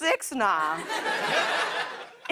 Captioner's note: laughter